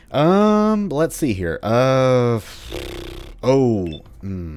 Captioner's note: more thinking sounds